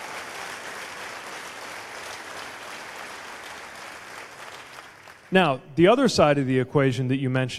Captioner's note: cheers/applause